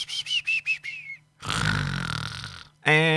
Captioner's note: snores